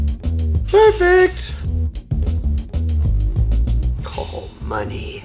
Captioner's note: falsetto